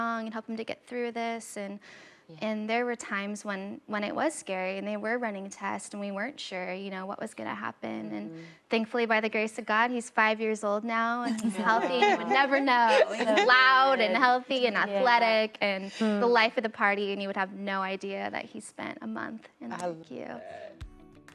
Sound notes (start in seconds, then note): 11.2 women laughing